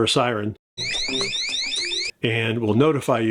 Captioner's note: siren blaring